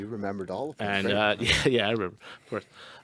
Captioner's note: laughs